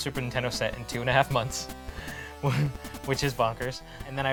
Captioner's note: chuckles